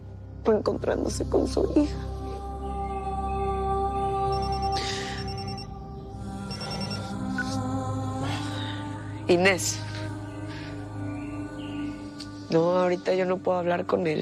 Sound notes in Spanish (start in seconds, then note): 5.2 Suena un celular